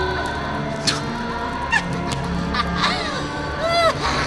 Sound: demon laughing

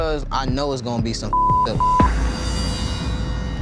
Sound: beeping

